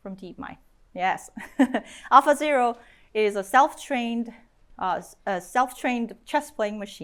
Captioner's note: chuckles